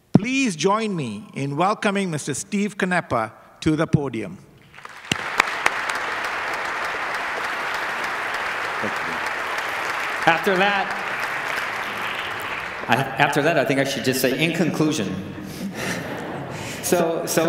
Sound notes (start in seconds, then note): 5.3 applause